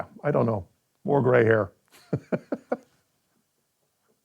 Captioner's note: laughs